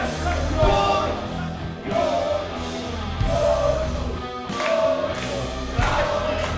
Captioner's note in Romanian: Mulțimea aclamă